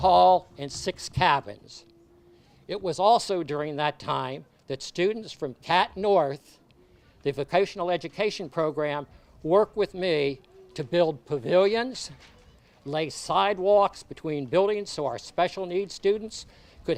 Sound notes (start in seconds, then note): none